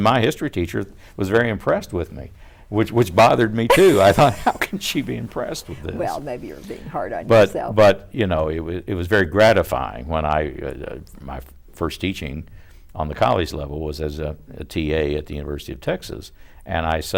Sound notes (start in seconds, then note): 3.7 laughter